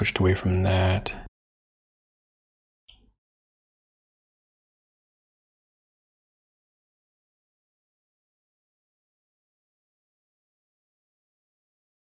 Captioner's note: blank Audio